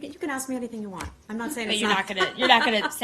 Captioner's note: laughter